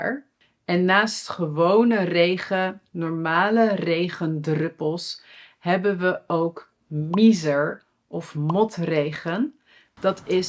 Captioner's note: normal raindrops